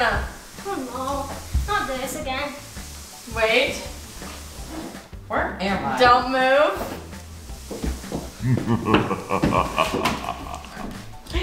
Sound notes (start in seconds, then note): 8.4 evil laughing